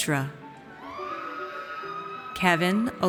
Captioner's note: audience cheers